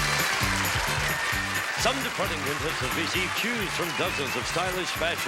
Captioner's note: applause